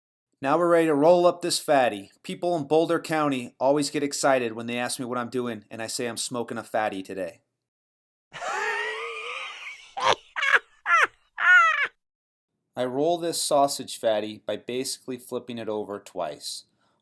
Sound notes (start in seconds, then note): 8.5 laughing